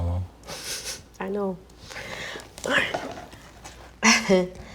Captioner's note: laughs